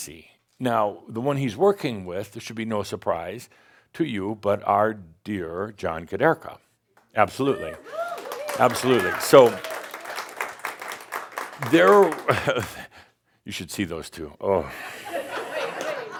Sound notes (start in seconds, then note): 7.4 audience sheers and applauds; 15.7 some chuckles